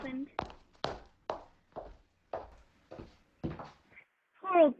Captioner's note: footsteps